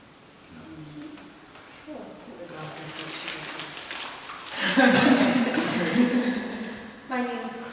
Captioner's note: laughter